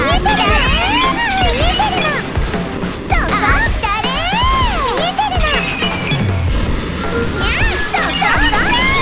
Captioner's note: hauu~ Crying